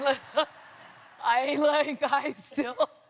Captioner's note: laughter